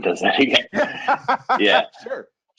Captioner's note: laughing